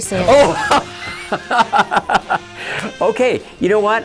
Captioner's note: laughing